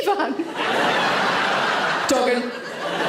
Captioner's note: audience laughs